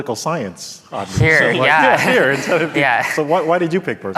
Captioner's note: laughing